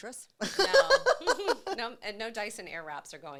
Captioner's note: laughing